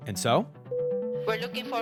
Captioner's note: soundbite of airplane announcement tone